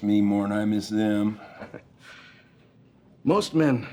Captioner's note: chuckles